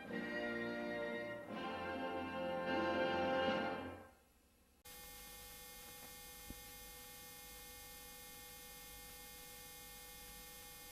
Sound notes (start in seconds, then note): 4.8 videocassette static resuming